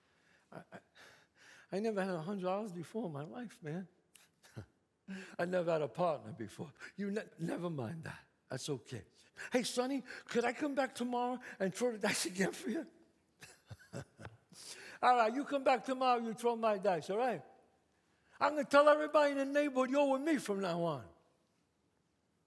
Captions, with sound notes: I never had $100 before in my life, man. [scoffs] I never had a partner before. You never mind that, that's okay. Hey, Sonny, could I come back tomorrow and throw the dice again for you? [laughs] All right, you come back tomorrow, and you throw my dice, all right? I'm gonna tell everybody in the neighborhood you're with me from now on.